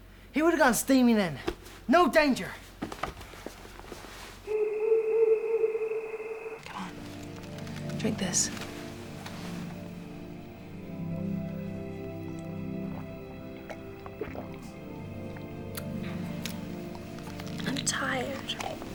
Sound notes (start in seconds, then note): 4.4 owl hoots; 9.7 soothing music